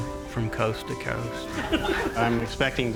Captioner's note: laughter